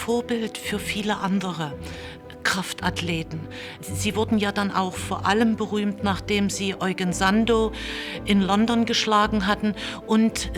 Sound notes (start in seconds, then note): none